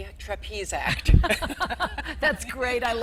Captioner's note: all laughing